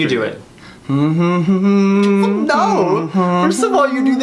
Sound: humming

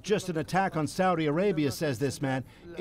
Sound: speaking foreign language

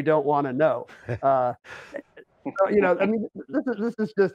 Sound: laughs

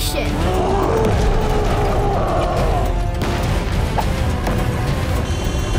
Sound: ominous music; gorilla roaring; horn honks

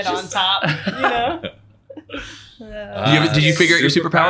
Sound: laughs

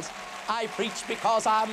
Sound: applause

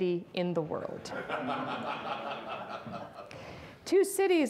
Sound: audience laughs

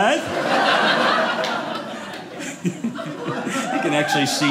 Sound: audience laughing

